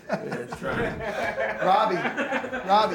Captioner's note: laughing